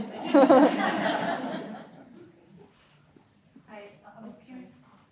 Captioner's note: audience laughing; chuckling